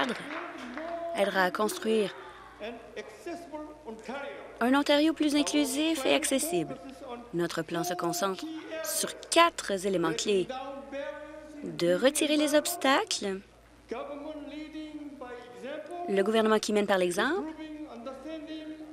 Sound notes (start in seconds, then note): 2.4 applause